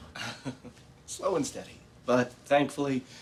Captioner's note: chuckles